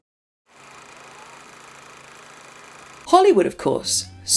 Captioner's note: old movie reel clicking